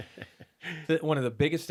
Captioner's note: laughing